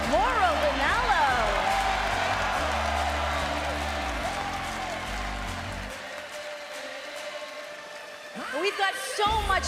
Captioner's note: crowd cheering